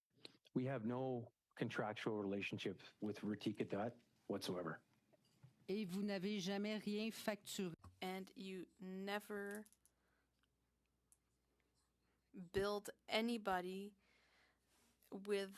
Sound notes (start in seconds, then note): 10.0 speaking French